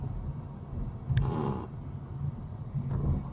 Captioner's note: pfffft